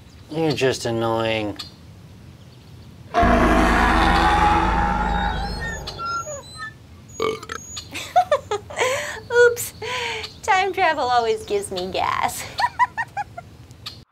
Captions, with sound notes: You're just annoying. [BAWK burp] Oops, time travel always gives me gas.